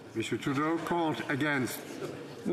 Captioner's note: speaking French